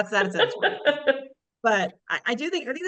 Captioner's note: laughing